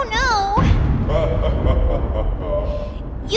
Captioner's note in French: des rires